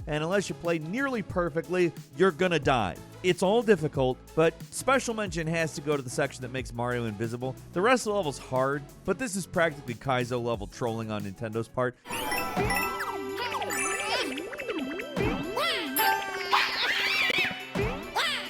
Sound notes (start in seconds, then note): 12.0 game sounds and music playing